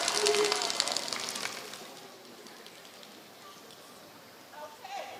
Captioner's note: applause